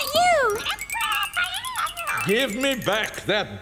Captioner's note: Boggart noises